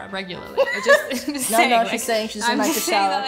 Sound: laughs

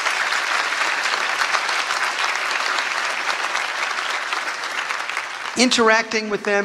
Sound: applause

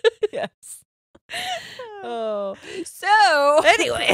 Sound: both laughing

